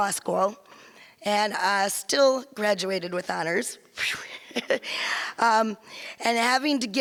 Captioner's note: laughs